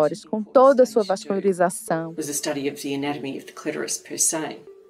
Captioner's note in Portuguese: trecho de entrevista em inglês